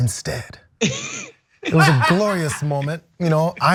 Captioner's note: laugh